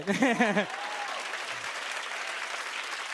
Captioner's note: applause